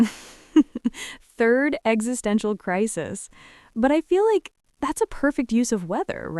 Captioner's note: laughs